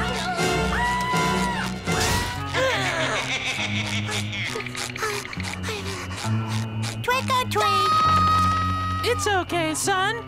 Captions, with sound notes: [screaming] [laughing] Trick or treat. [screaming] It's okay, son.